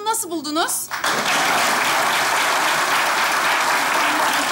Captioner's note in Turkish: Alkış sesleri